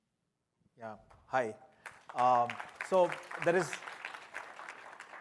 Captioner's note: applause